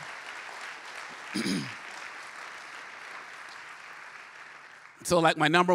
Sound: applause; clears throat

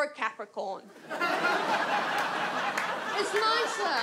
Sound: audience laughs

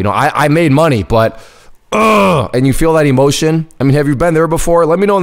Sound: groans

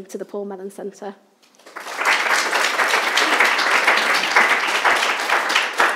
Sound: audience applauding

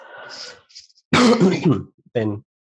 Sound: coughs

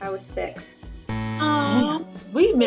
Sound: buzzing sound

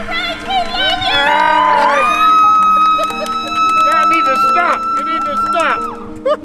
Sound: cheers

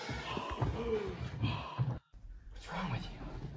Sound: heavy breathing

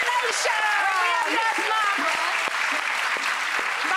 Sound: audience clapping

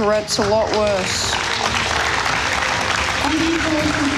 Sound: audience applauding

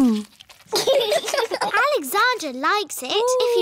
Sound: laughter

